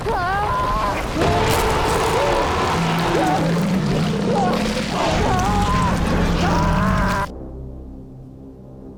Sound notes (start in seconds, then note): 0.0 Jim screaming; 1.1 shark roaring; 1.5 Jim screaming; 5.4 ominous music